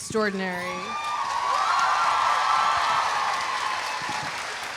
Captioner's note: audience cheering